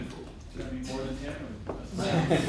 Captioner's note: laughter & Inaudible Remarks